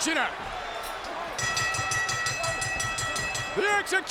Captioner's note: bell ringing